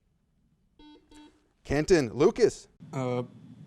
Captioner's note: buzzer sounds